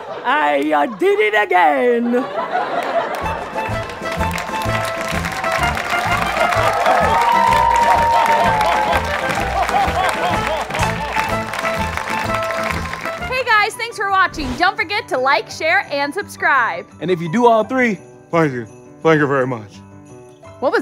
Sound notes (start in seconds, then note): 3.1 italian accordion music; 10.3 laughs